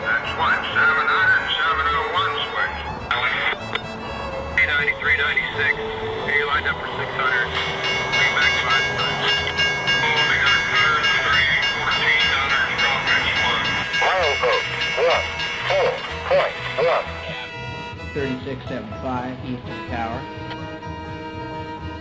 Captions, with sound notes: - [Voiceover] That's one 700 and 701 switch. - [Voiceover] V93 96, got you lined up for 600. (train bell) - [Voiceover] 36 75 east of the tower.